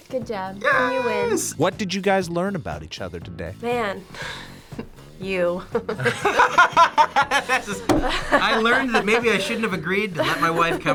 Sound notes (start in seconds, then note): 5.6 both laugh